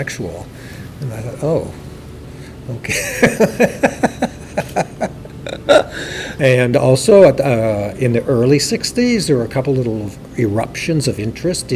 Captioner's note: laughs